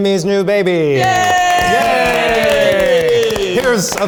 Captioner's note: group cheers